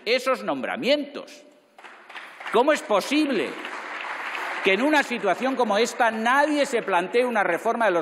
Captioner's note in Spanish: Aplausos